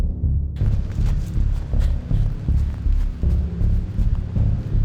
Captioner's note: leaves rustle